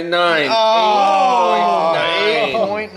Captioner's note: men groaning